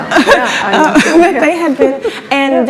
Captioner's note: laughs